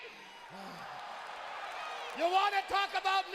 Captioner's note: crowd cheering